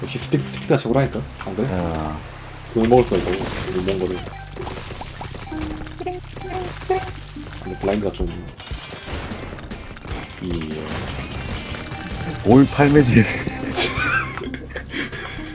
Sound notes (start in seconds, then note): 8.5 coin sounds